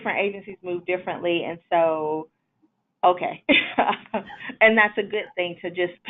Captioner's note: laughs